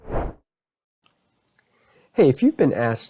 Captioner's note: logo whooshes